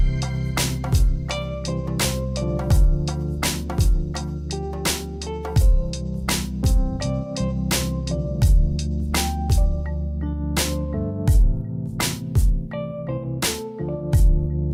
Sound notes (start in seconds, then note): none